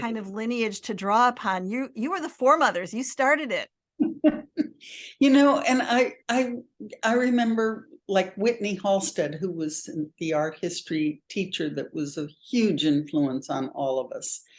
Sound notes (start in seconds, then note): 4.0 chuckles